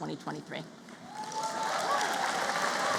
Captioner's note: applause